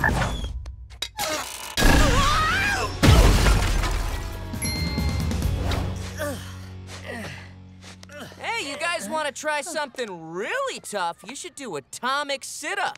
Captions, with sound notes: Whoa! [grunting] Hey, you guys wanna try something really tough you should do atomic sit ups.